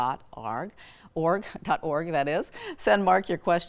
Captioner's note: chuckling